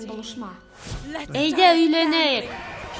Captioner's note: alert Alarm Sounds